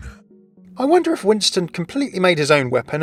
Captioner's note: voiceover